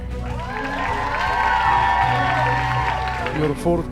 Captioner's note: audience cheering